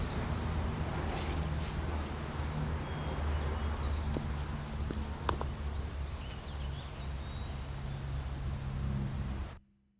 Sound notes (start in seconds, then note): 6.6 birds chirp